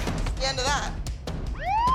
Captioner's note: police siren